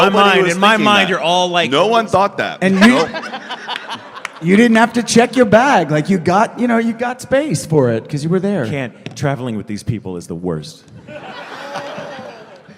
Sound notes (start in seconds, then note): 2.7 laughter